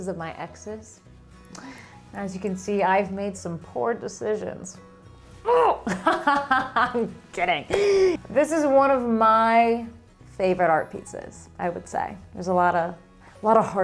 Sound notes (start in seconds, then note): 5.8 laughing